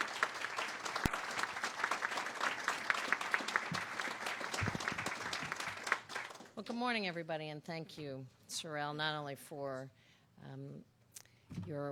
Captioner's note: applause